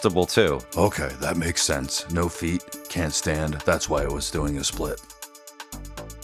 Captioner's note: Deep Batman Voice